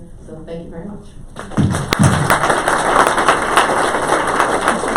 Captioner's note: clapping